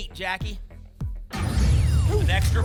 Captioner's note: boom